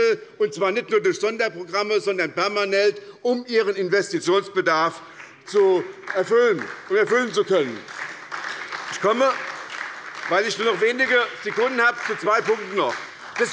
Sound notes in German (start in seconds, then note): 5.1 Beifall bei der SPD